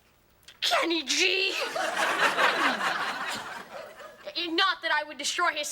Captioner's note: audience laughing